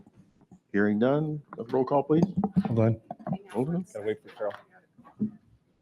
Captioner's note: members chattering